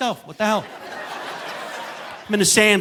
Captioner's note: audience laughing